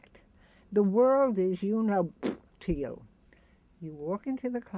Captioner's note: spits